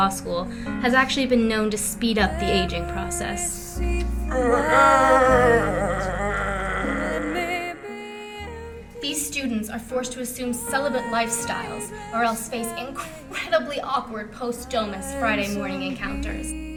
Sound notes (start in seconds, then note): 5.0 old man noises